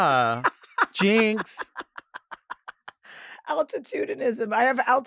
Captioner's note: Chelsea laughs